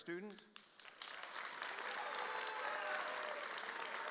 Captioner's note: audience cheers